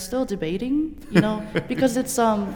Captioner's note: laughter